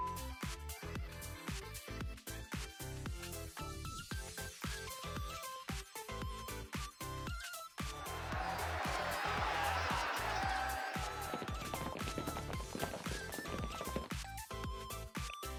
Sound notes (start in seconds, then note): 7.0 crowd